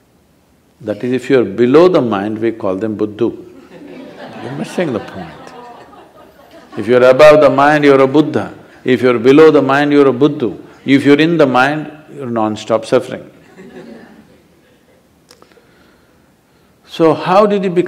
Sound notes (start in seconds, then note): 6.5 laughs; 10.9 laughter